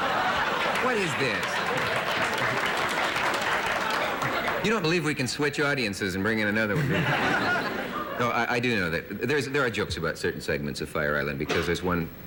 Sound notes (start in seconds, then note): 0.0 laughter; 1.9 applause